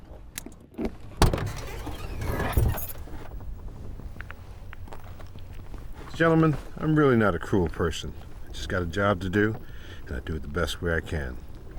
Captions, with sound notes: (trunk opening) Gentlemen, I'm really not a cruel person. I got a job to do, and I do it the best way I can.